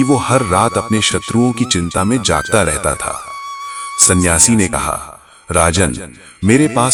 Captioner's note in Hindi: चीखने की आवाज़